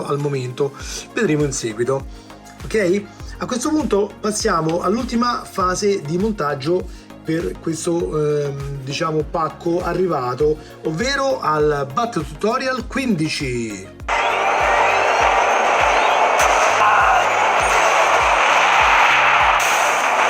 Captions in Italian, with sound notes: al momento vedremo in seguito ok a questo punto passiamo all'ultima fase di montaggio per questo diciamo pacco arrivato ovvero al batterio tutorial 15 [Applauso]